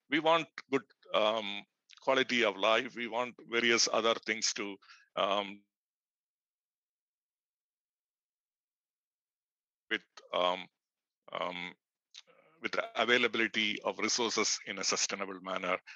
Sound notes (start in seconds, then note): 4.9 sound cuts